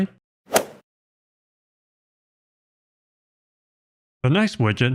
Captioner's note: golf ball hit sound effect